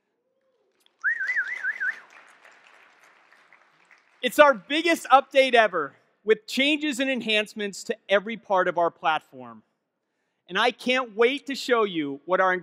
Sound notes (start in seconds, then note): 0.5 clapping and whistling; 0.5 audience clapping